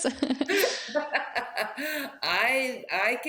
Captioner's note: laughing